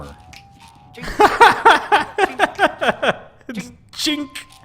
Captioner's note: laughs loudly